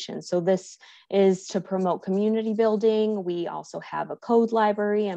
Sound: none

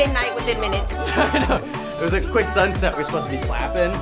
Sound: laughs

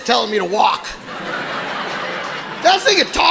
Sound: audience laughing

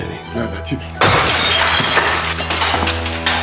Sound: glass breaking

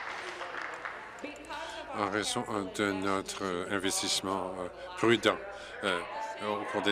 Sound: applause

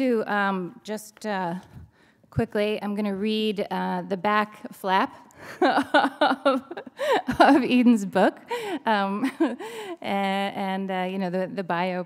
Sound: laughter

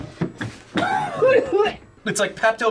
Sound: gags; coughs

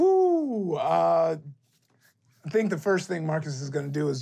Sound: sighs

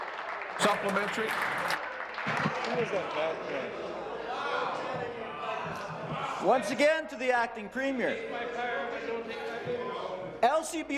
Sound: applause

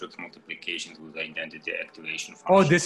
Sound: speaks faintly

